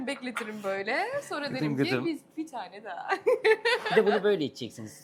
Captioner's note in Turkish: kahkaha